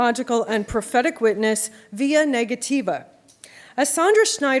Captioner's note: non-english speech